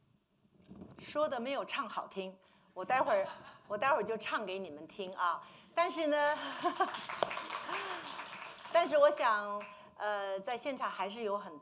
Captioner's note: speaking Mandarin